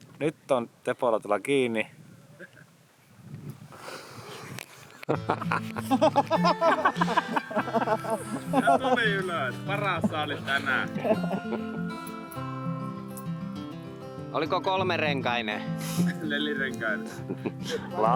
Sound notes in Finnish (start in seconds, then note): 4.8 naurua